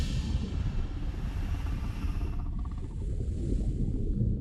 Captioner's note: crocodile growling